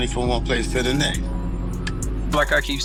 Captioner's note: neighborhood noise